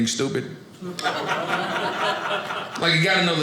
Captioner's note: audience laughing